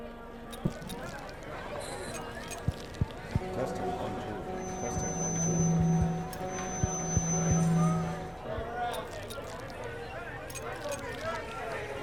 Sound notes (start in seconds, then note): 0.3 crowd chattering, flash bulbs popping; 4.4 microphone feedback squeals; 9.4 crowd chattering, flash bulbs popping